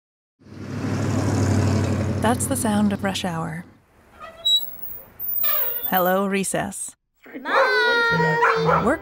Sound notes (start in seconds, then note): 0.4 engine rumbles; 4.1 squeak; 7.5 barking